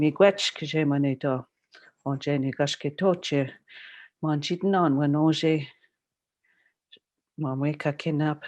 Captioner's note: speaking Algonquin